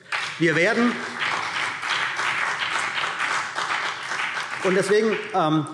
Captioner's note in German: Beifall CDU und BÜNDNIS 90/DIE GRÜNEN